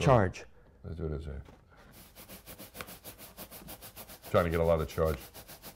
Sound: rubbing sounds

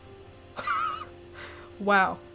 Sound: wheezes

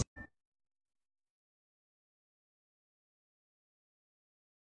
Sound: silence

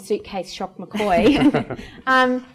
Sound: laughter

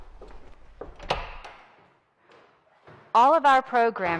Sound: door opening

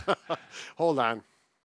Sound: both laughing

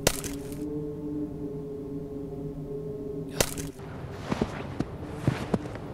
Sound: chopping; crunching snow

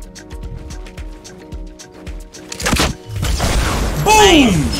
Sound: energetic music; explosion

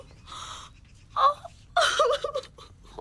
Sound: cries

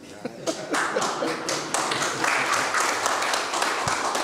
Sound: audience clapping

